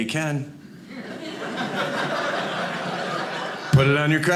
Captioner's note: audience laughing